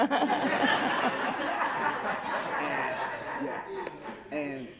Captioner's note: laughter